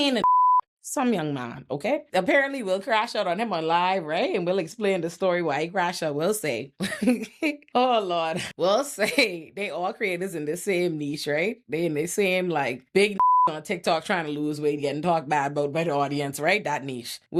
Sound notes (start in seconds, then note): 0.1 beep; 7.6 laughs; 13.2 beep